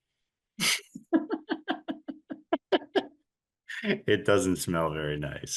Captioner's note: laughing